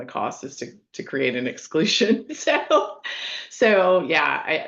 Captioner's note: laughing